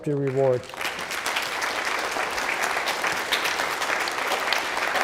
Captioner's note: applause